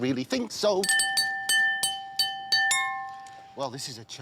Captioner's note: clinking